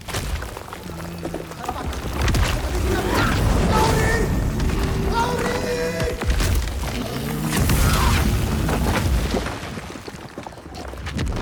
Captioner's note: screaming; screaming